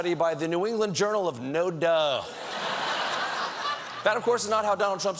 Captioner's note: laughter